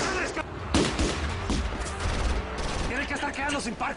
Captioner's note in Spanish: Disparos